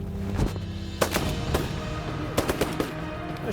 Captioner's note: gun shots